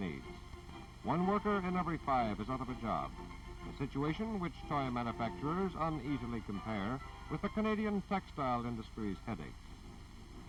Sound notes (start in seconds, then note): none